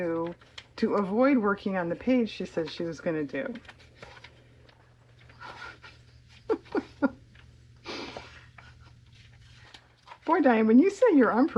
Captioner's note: laughs